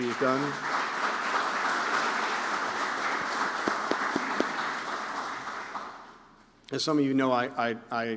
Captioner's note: applause